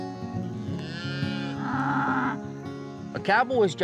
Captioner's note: cows mooing